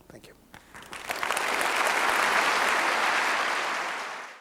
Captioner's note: applause